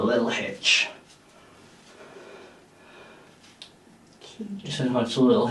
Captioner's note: person breathing